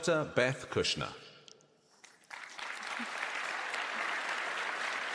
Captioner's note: applause